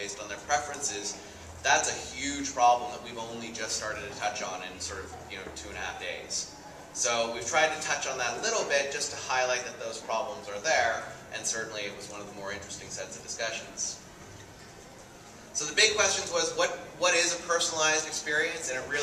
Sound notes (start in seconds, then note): none